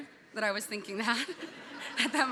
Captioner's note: audience laughing